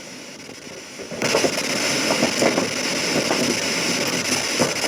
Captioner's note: static hissing